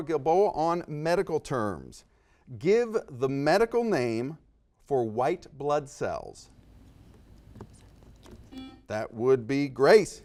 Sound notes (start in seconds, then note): 6.0 whispers; 8.2 beeps